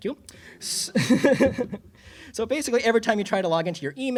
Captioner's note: laughs